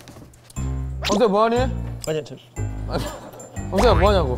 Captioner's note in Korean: 부스럭 부스럭